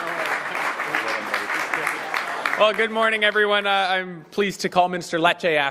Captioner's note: applause